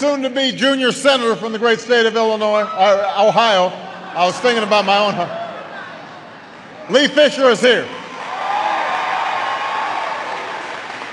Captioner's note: applause